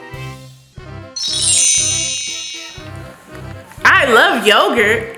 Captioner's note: magical ting